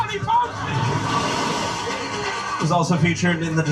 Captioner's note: water splashing